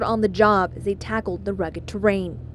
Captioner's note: helicopters